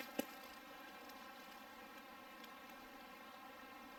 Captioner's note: burbling water